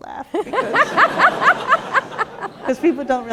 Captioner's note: laughter